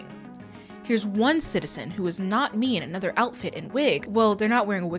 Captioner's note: nervously